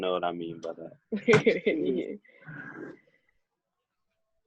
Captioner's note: laughing